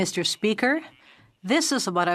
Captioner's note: speaking French